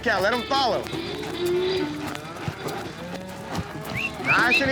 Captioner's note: cattle mooing